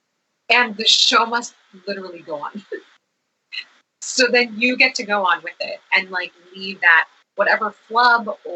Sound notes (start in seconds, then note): 3.1 laughs